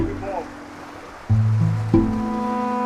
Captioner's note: water streams; eerie music